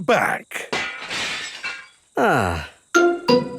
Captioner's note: glass shatters